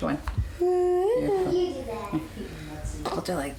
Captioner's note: humming